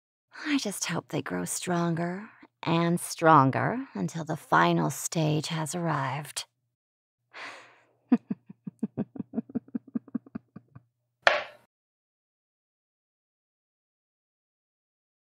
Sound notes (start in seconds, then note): 8.1 Dorothea softly laughs to herself; 11.1 single light thud rings